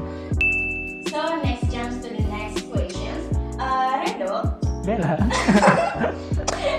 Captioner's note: giggling